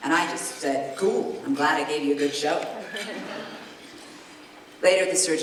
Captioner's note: giggles